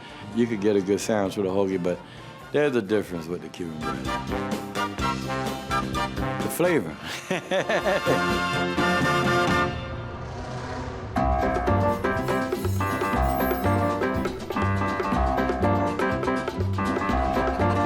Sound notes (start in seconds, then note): 3.8 upbeat trumpet music plays; 7.0 laughs